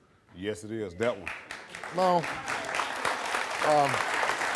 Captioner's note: applause